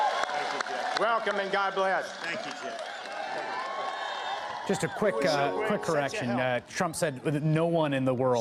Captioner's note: cheers and applause